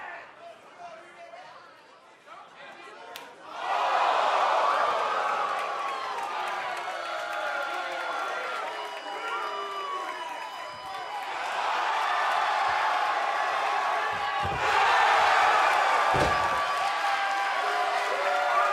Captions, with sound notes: STATEMENT TO THE NXT CHAMP. [CROWD RESPONSE]